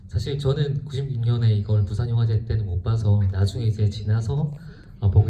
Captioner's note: speaks in foreign language